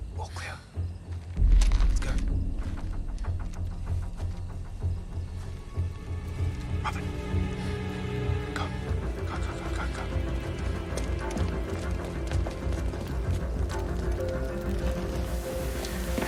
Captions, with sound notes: All clear. Let's go. (WHISPERS) Robyn? Go. Go, go, go, go.